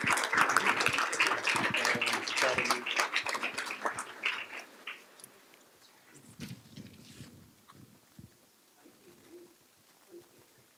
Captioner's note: applause